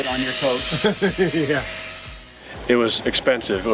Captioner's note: laughing